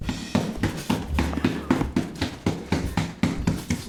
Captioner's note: hand tapping